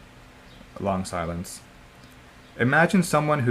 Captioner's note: long silence